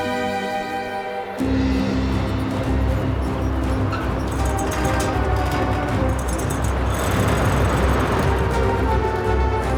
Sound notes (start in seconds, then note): 0.3 mystical music continues; 1.5 dramatic music; 3.9 metal creaks